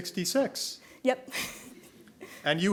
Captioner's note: chuckling; audience members chuckling